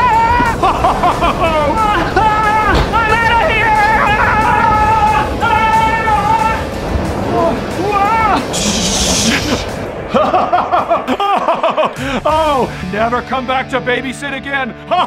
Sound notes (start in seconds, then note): 0.0 Santa laughing; 0.2 Grinch yelling; 2.3 Grinch screaming; 10.0 Santa laughing